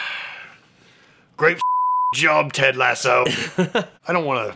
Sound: beeping

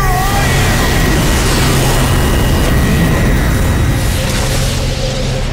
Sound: roaring, whooshing

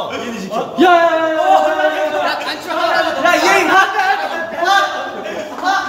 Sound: yelling about I.N's top

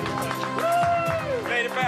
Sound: clapping

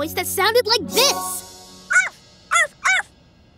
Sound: barking

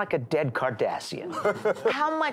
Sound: laughs

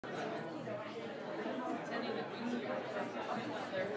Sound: crowd chatters

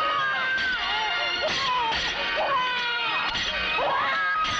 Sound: baby crying

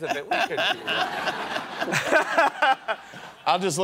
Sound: laughter

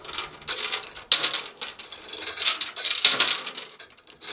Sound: chains clattering

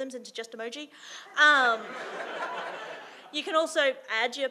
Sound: audience laughing

